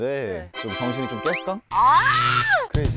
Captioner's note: in Jeju accent